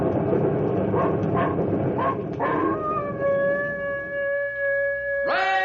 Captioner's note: thunder; dog barking